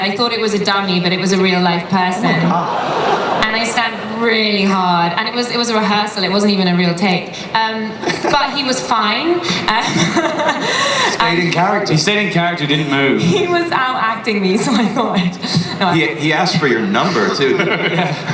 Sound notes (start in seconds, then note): 2.4 laughter; 9.4 laughs